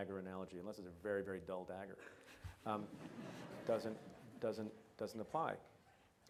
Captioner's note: audience laughs